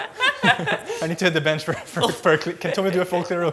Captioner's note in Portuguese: risos